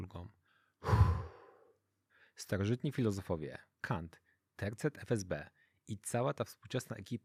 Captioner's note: sigh